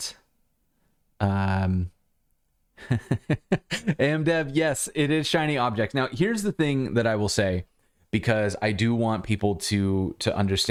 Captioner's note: laughter